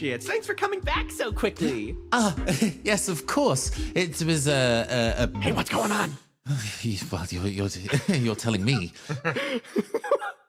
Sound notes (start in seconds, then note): 5.2 Sayadnapt, Whispering; 7.7 laughs